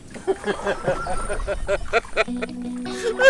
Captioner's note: teacher laughing